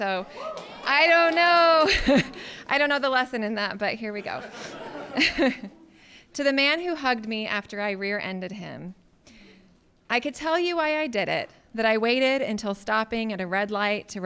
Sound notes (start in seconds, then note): 0.3 audience clapping and cheering; 4.2 laughing